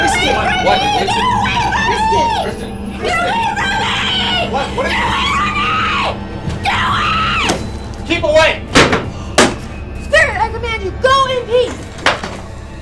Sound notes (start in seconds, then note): 8.7 chair banging